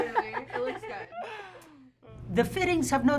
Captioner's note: laughter; indistinct chatter